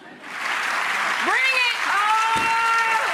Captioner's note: audience applauses